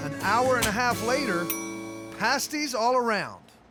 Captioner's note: bell dings